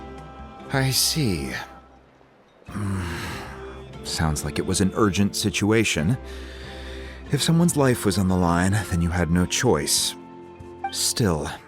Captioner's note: sigh